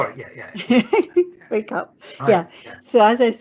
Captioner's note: laughs